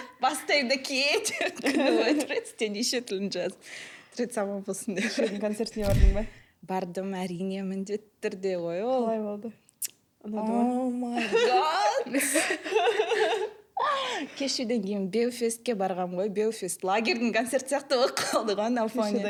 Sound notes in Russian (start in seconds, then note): 11.2 смех